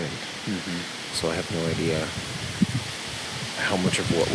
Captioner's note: wind whooshing